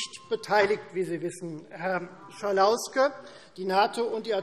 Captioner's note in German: Fortgesetzte Zurufe – Glockenzeichen